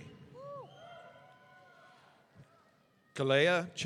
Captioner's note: audience cheering